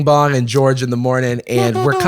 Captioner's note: imitates trumpet